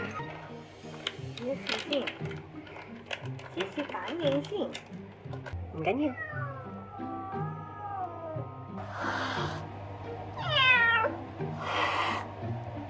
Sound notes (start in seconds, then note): 8.8 cat hissing